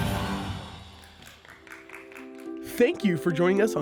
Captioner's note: audience clapping